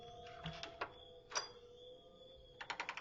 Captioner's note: door unlocks